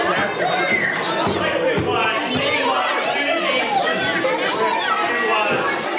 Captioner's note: whistles